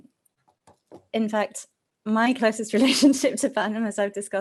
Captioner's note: chuckles